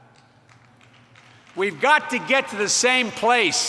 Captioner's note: applause